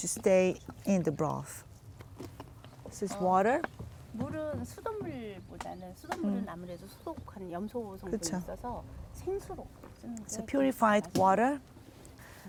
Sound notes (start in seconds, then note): 5.3 speaking Korean